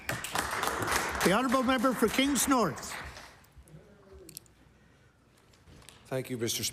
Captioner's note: applause